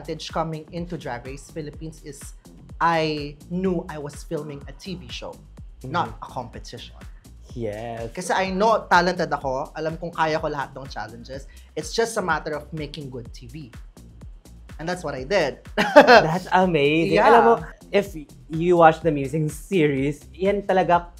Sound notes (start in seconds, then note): 15.9 laughs